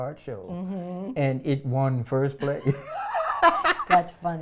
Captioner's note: laughs